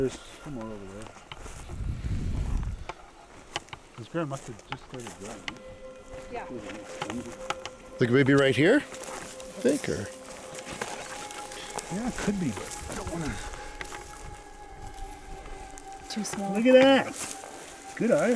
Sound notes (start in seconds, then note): 4.2 chatter indistinctly; 5.6 eerie music